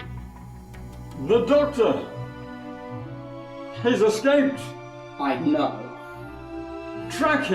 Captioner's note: panicked